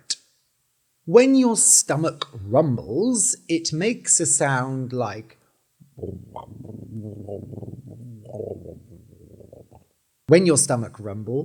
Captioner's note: rumbling sound